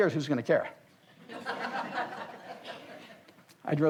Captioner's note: audience laughs